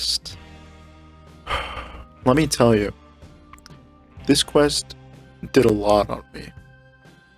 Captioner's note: sigh